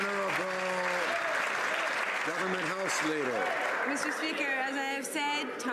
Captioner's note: some Applause